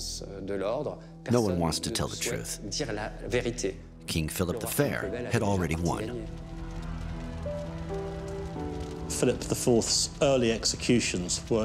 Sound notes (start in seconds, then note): 6.6 crowd cheers; 6.9 fire crackles